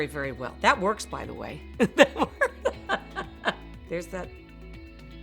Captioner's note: laughs